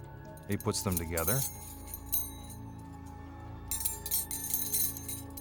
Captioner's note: rings clinking